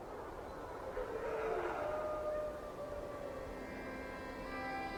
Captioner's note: wolves howling; gentle music